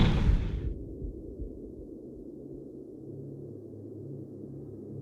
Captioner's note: house thuds